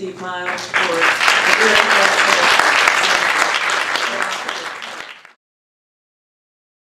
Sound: applause

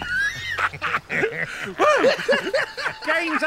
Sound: laughing

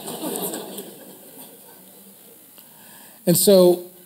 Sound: audience laughs

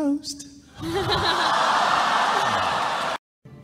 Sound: laughs

